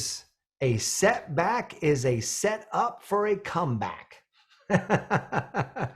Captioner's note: laughs